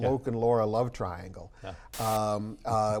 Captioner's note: static